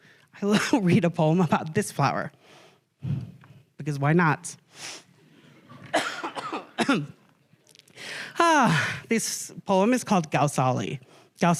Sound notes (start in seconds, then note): 5.7 coughs; 7.8 sighs